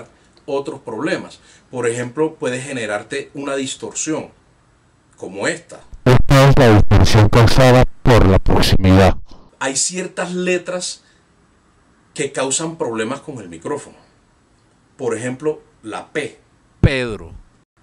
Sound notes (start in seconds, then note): 5.9 distorted voice